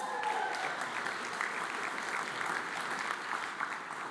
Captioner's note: audience applauds